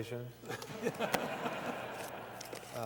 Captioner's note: laughter